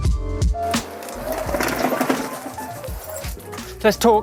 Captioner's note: bike wheels whirring